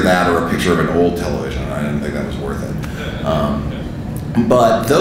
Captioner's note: audience laughing